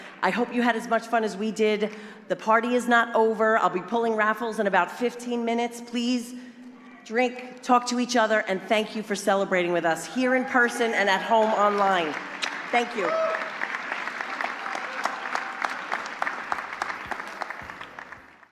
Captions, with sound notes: I hope you had as much fun as we did, the party is not over I'll be pulling raffles in about 15 minutes. Please drink, talk each other, and thank you for celebrating with us here in person and at home online Thank you (APPLAUSE)